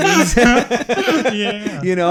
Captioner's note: laughing